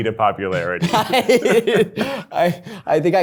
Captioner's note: laughing